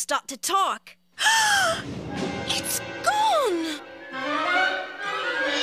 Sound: she gasps

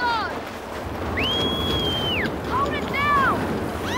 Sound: screaming

